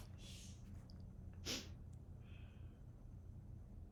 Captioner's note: sniffles